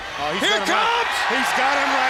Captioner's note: audience cheers